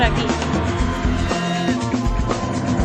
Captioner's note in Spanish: Balar de una Cabra - "Beeeeeeehh.."